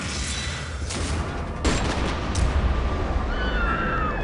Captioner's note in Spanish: Disparos; Gritos